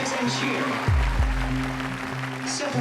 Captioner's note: applause